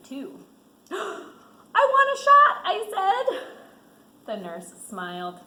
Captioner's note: gasps